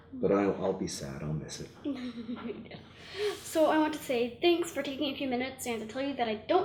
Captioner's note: laughs